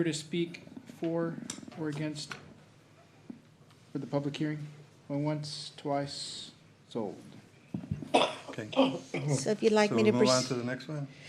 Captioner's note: clears throat